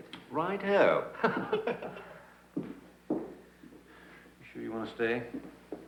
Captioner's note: Smythe laughs